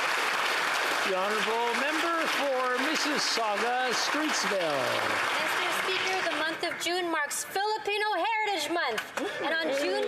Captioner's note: applause